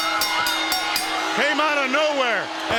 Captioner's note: bell ringing